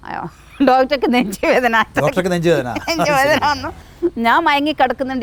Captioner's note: chuckles